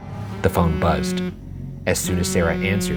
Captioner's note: phone buzzing